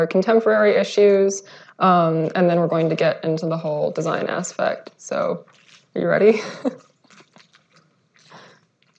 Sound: laughs

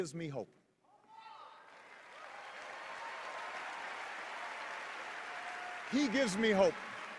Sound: cheers and applause

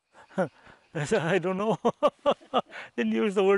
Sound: laughs

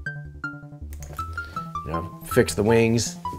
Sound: clicking

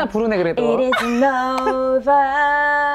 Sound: laughing

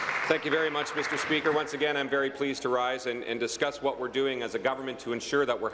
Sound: applause

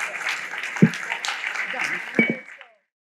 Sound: applause

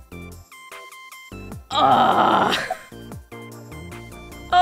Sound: groans frustratedly

